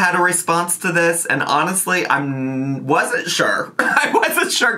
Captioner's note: laughs